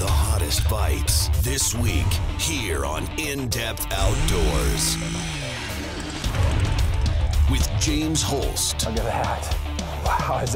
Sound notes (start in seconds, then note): 3.9 drill revving; 9.0 voiceover